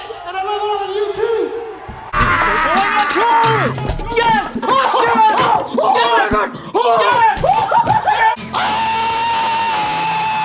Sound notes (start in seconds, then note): 2.1 incoherent screaming; 7.6 more screaming